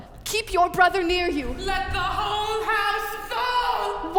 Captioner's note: yelling offstage